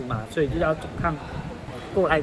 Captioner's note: Cantonese